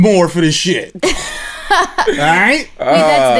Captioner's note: laughter